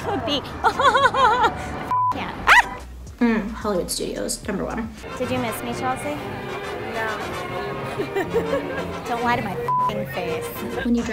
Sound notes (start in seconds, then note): 0.1 laughs; 1.9 beep; 9.7 beep